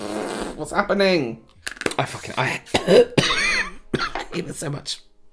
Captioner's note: chokes